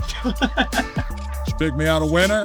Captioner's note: laughing